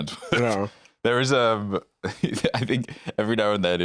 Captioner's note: laughs